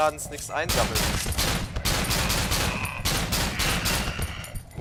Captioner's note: AGAIN Glock 17 shots :D